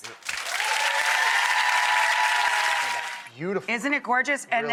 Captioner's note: audience applause